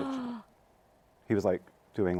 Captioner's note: gasps